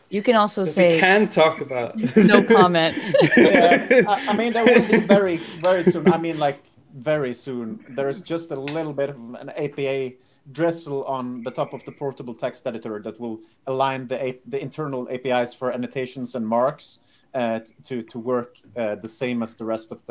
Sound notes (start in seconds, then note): 4.4 laughing